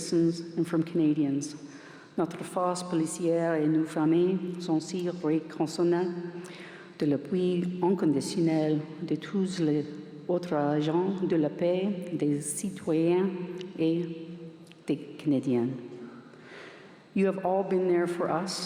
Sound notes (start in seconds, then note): 6.0 speaking french